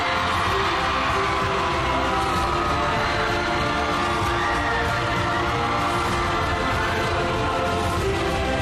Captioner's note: crowd screaming